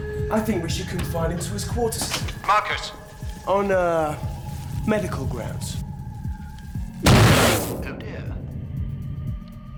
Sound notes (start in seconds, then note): 7.0 boom